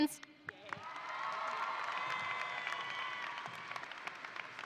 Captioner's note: audience applauding